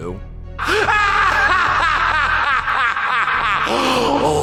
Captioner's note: laughing maniacally